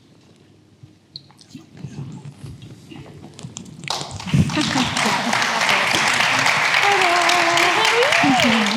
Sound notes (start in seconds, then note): 3.8 attendees applauding